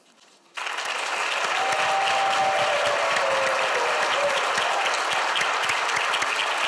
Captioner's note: audience applauds; audience cheers